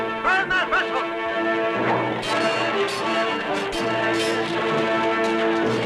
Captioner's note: yelling; grandiose music